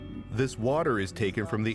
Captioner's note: speaking Japanese